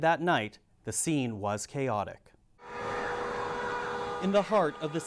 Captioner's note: sirens wailing